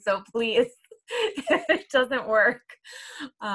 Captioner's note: laughs